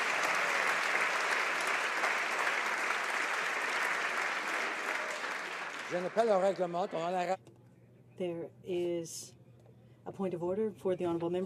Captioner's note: applause